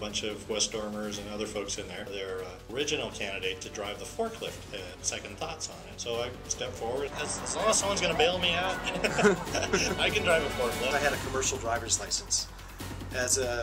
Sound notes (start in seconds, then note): 8.6 laughs